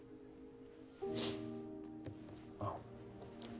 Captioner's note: sniffs